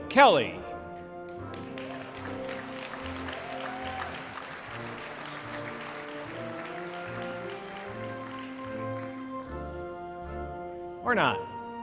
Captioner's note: applause